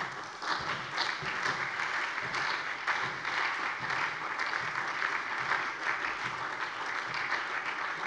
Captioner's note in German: Anhaltender Beifall bei der SPD